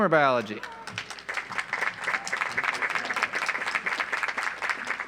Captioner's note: audience applauds